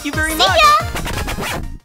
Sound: record scratch

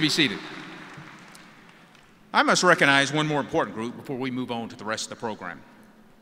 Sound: cheers and applause

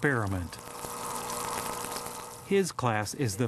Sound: sound of aerator

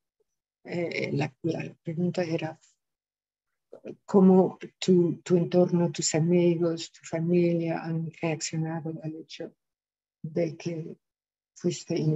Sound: speaking spanish

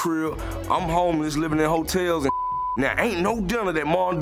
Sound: beep

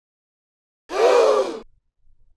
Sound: gasp

